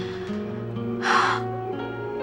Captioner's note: exhales